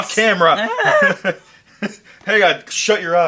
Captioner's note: laughing; screaming